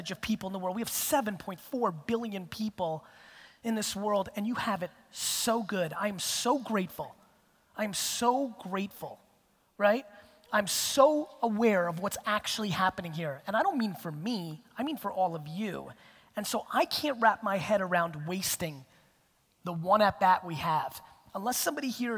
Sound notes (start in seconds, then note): none